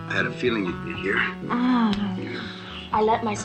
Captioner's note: Cheryl moans